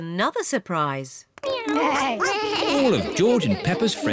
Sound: all making animal sounds

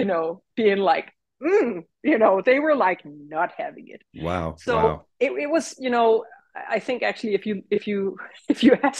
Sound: grumpy sounds

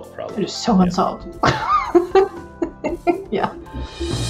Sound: laughs

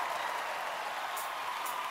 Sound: cheering, applause

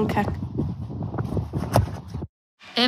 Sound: wind blowing; ball kicking sound

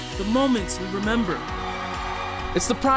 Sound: cheering

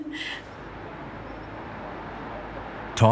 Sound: traffic noise

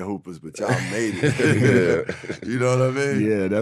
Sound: laughing

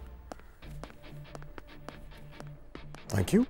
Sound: footsteps

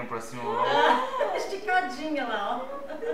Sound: laughs

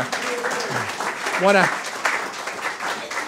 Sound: audience applause

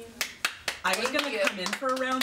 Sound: applause

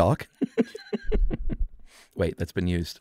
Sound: laughing

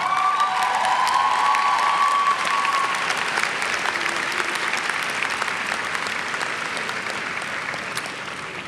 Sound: cheers and clapping

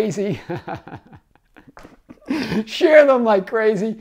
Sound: laughs

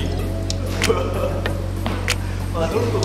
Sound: dying of laughter

